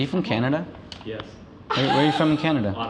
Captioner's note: laughing